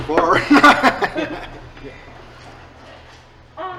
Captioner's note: laughing